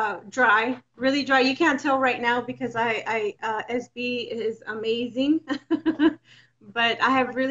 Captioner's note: laughs